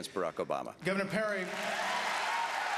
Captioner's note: applause